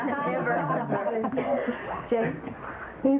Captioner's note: laughter